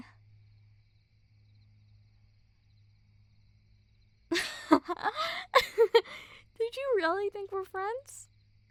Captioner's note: laugh